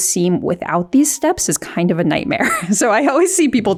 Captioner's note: laughs